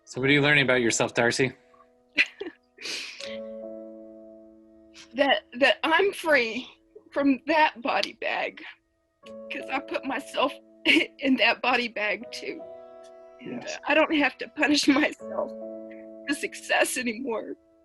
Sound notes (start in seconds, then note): 2.2 giggles